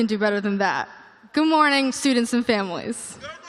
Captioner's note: audience response